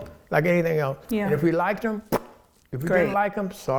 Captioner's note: blowing